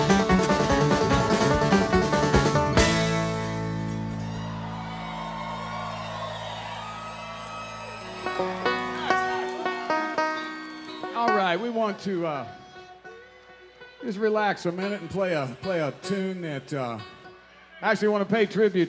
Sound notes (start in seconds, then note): 5.6 audience applauds; 5.6 audience cheers